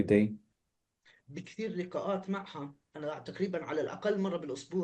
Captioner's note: speaking arabic